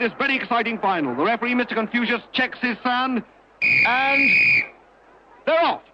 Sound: blowing the whistle

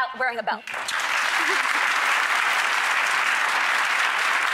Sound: applause

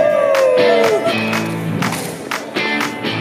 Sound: cheering; rock music

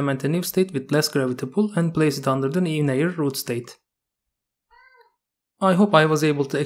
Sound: meow

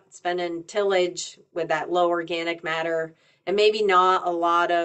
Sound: none

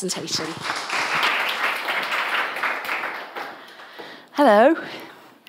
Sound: audience applauds

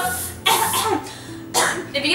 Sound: coughing

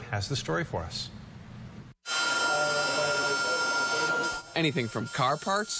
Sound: machinery noise

